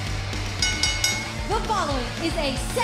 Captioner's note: bell ringing